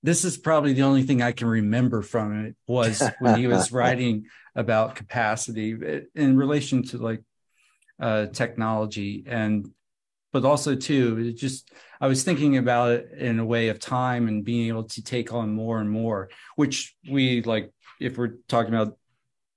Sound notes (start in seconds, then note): 2.8 laughs